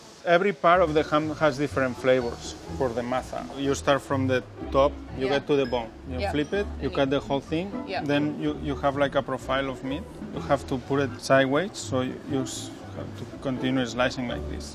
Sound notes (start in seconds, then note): 2.8 speaking in foreign language